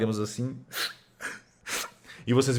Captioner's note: sobbing